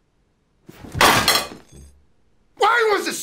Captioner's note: loud clank